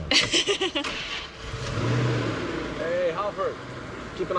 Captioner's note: laughing loudly; engine revving loudly